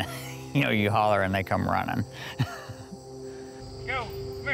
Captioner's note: laughs